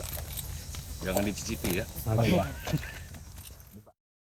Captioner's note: laughs